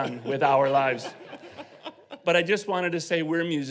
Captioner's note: audience laughing